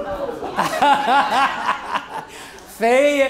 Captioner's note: laughter